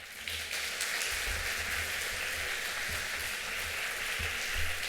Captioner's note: applause